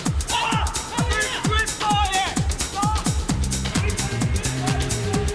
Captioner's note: John and Gene shouting